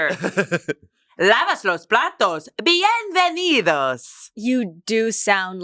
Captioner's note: speaks in foreign language